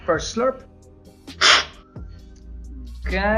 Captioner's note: slurping